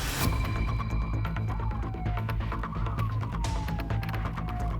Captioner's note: tense music; siren wailing